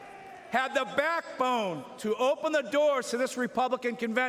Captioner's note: applause